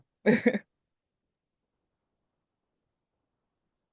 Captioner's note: laughs